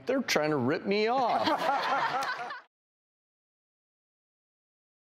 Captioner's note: audience laughing